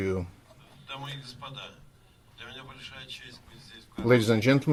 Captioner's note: speaking in foreign language